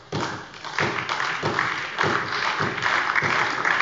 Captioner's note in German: Beifall bei der SPD